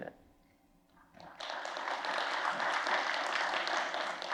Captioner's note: applause